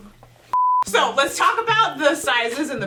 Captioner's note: beep